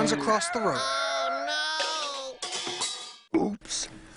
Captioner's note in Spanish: sonido de dibujos animados, accidente automovilístico